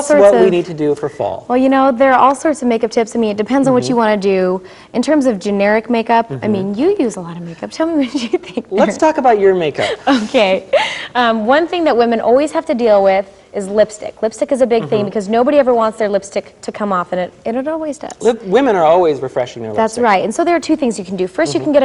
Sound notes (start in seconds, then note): 6.3 laughing; 10.5 giggling